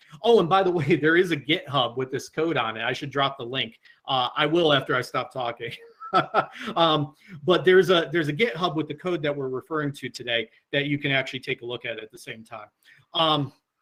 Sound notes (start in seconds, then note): 5.7 laughs